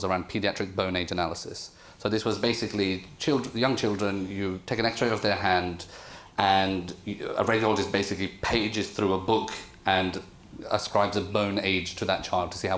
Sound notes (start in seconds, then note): none